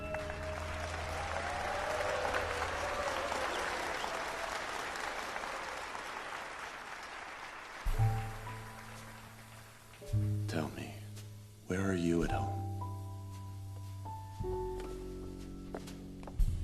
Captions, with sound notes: (AUDIENCE APPLAUDING) Tell me. Where are you at home?